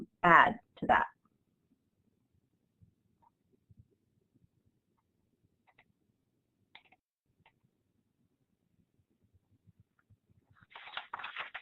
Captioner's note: silence